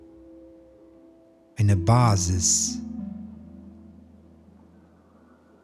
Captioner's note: german